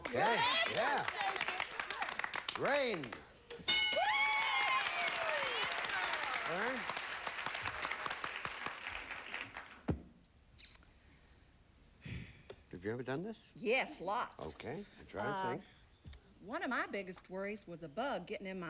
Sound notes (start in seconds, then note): 4.0 audience applauding